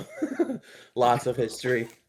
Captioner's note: laugh